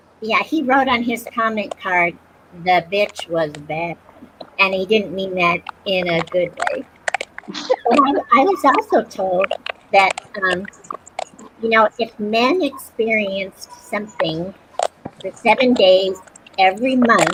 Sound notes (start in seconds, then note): 6.6 laughter